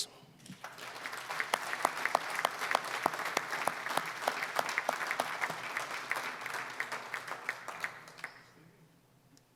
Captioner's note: applause